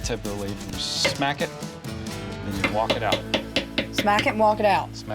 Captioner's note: hammering